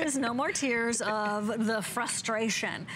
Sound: laughter

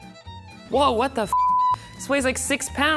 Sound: beep

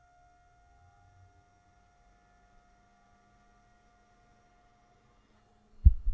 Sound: very quiet fan whirring, no buzzing

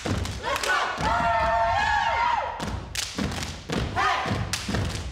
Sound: group cheers

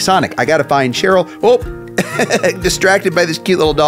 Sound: laughing

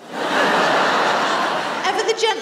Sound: laughter

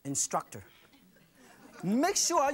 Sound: laughs

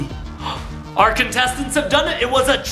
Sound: gasps

